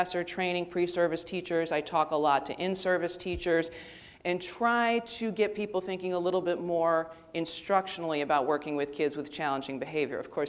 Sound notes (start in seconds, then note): none